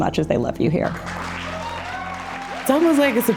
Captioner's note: audience cheering